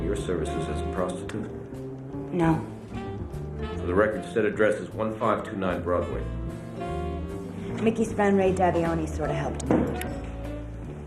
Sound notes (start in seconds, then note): 2.7 pat; 8.0 pat